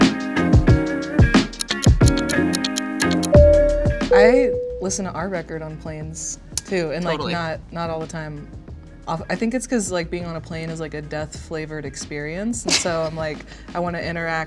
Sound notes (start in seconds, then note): 1.8 airplane seatbelt sign chime